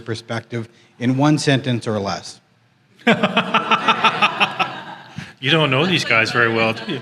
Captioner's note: laughter